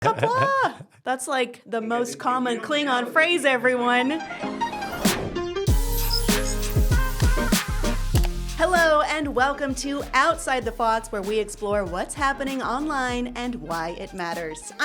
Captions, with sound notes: - Qapla. That's like the most common Klingon phrase, everyone. (upbeat electronic music) (mouse clicking) Hello and welcome to "Outside the Fox," where we explore what's happening online and why it matters.